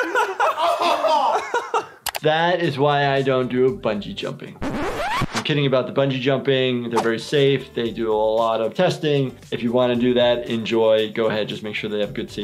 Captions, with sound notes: (laughing) That is why I don't do bungee jumping. (record scratches) I'm kidding about the bungee jumping. They're very safe. They do a lot of testing. If you wanna do that, enjoy, go ahead. Just make sure they have